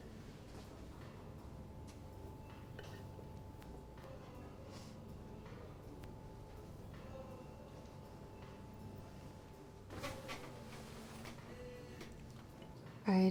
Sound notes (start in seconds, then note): 2.6 silverware clinking; 9.9 chair creaks